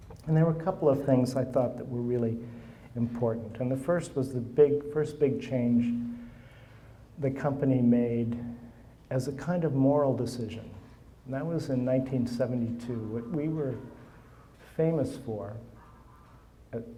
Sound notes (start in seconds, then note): 12.5 phone buzzing; 15.5 phone buzzing